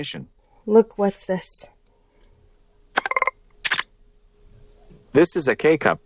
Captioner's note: camera press and click sound